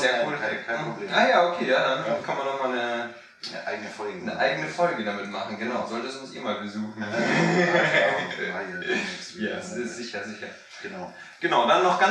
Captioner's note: laughs; laughing